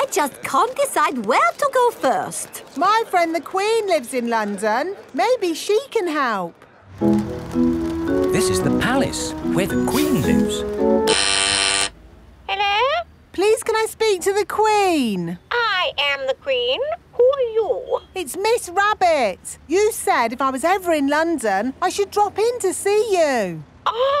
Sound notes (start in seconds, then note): 11.2 doorbell ringing; 12.8 over intercom